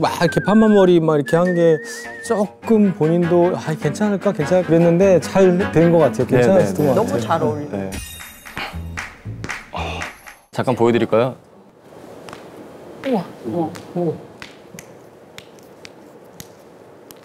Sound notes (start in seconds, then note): 12.2 crack